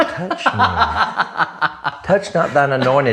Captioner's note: laughs